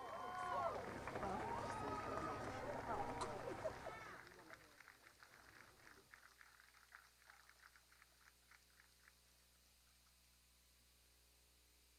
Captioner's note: cheers and applause